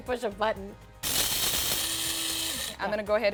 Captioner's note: grinder buzzing